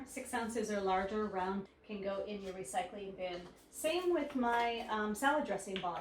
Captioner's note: none